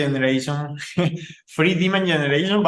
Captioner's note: laughing